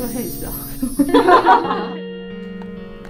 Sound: hahahaha

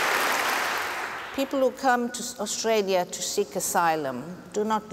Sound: applause

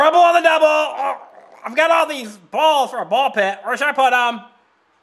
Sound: grunting

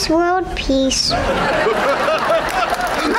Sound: laughing, applause

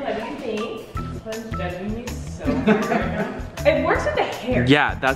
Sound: laughs

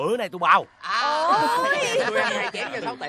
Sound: chattering

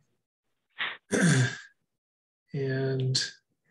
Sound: clears throat

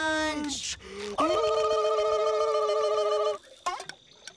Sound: making silly sounds

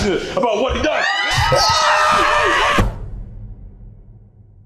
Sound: screaming

